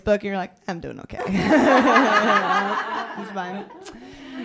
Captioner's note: laughter